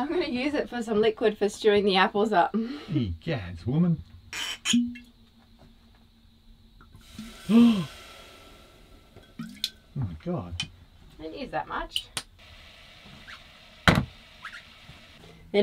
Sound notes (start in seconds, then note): 3.5 foreign language; 4.3 cork popping; 6.8 sizzling; 7.4 gasps; 14.3 plonking